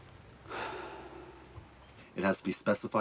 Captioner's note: crowds cheering distantly; sighs